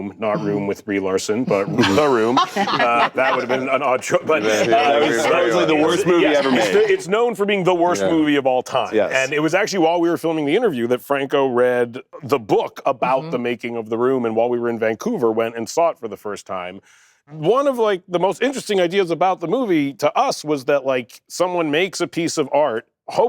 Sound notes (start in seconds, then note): 1.5 laughter; 4.9 chatter